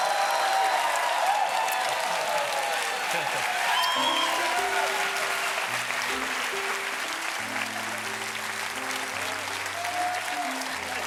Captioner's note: cheers and applause